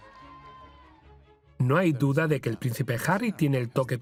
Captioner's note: voiceover